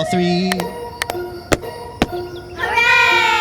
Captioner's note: clap Clap; stomp Stomp